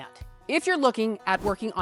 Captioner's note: text whooshing